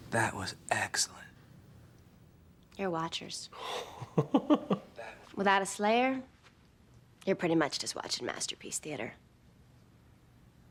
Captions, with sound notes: - That was excellent. - You're watchers. (laughs) - That was excellent. - Without a slayer you're pretty much just watching "Masterpiece Theatre".